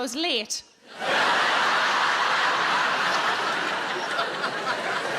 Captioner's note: audience laughing